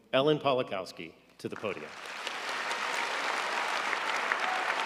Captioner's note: audience applauding